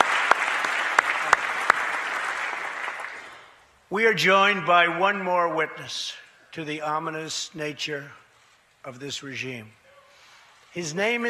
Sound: applause

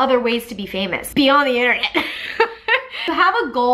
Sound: laughs

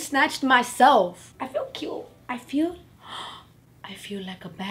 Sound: gasp

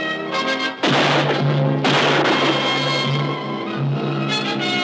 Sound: gunshots firing

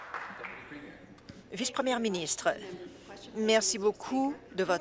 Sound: applause

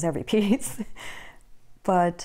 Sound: laugh

